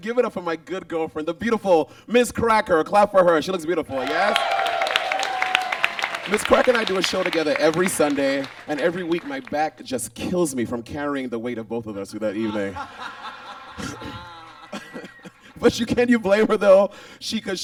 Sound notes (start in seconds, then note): 3.2 audience claps and cheers; 12.5 laughs; 15.2 Monet laughs